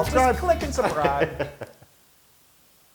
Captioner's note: laugh